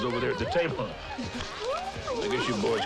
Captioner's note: ladies tittering